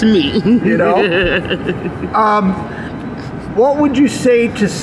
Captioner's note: woman laughing